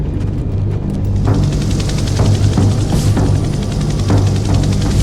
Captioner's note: helicopter blades whirring